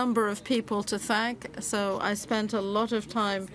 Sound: speaking French

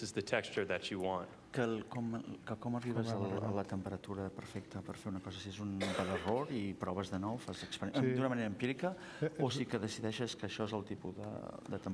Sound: speaking catalan

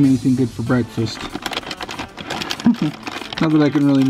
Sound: bag crinkles; laughs

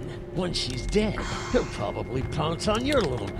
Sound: sighs

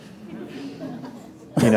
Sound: laughter

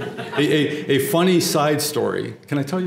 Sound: laugh

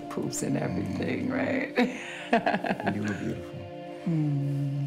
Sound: laughs

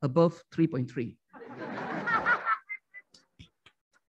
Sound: laughing

